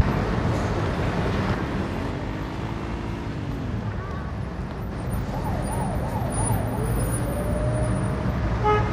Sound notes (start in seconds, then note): 0.0 motorcycle revving; 0.0 ambient street sounds; 4.9 police siren